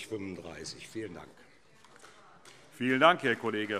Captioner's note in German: Vereinzelter Beifall SPD